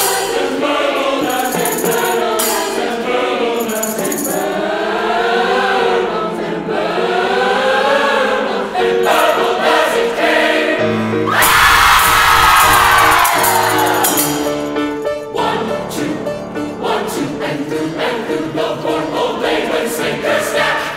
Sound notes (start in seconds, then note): 11.3 choir screaming; 14.3 bright, playful harpsichord music